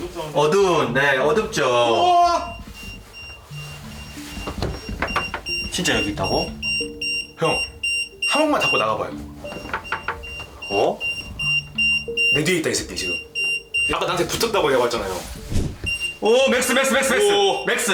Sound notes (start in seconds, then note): 9.5 door